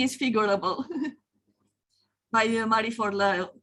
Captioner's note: chuckles